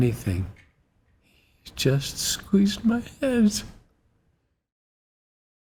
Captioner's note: tearfully